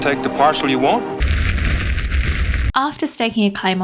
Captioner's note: crackling fire intesifies